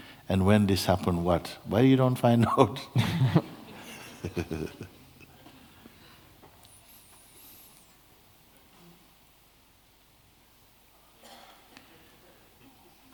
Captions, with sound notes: 'When this happens what?' Why you don't find out? [Laughter] [Long silence]